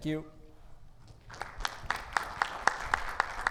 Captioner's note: audience claps